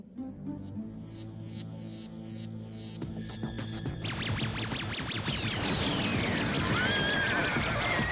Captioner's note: static noise; whinnying